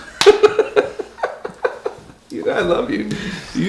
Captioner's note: laughter